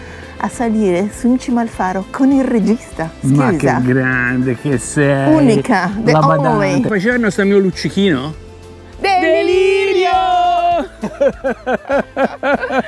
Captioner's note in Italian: Risate